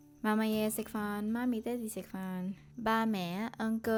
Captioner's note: Cantonese